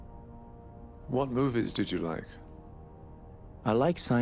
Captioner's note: voiceover